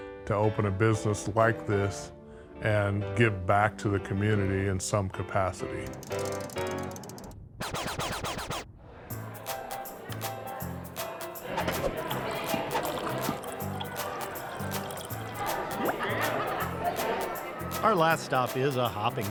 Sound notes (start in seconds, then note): 7.2 playful upbeat music; 9.2 vinyl scratching; 11.5 upbeat music; 14.2 beer splashing; 16.9 upbeat music